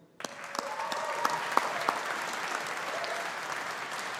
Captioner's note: audience applauding